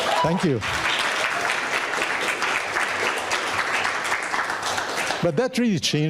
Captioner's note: audience cheering and applauding